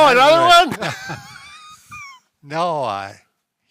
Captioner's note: laughing